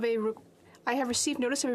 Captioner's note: speaking French